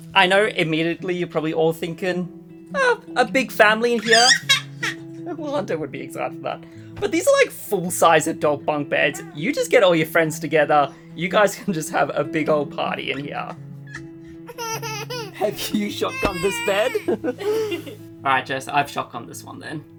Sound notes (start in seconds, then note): 4.1 laughs; 14.6 laughs; 17.2 chuckle